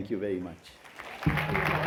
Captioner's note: applause